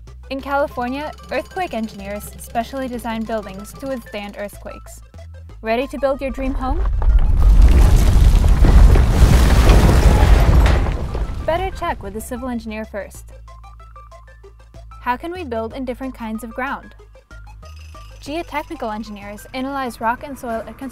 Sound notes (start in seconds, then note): 6.0 low rumbling noise